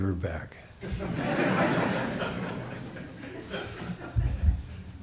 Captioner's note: audience laughs